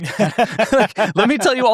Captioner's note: laughs